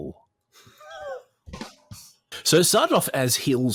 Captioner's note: wheezes; drum fill plays